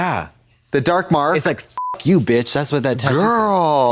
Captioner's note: beep